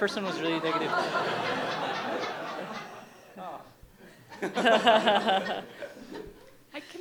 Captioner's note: laughter